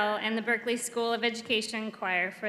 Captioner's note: none